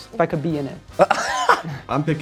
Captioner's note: laughs